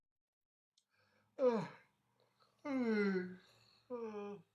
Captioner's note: yawns